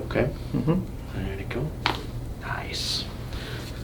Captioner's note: bones popping